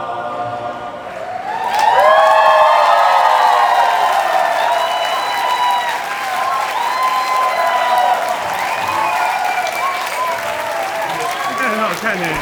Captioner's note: cheers, applause and clinking of glasses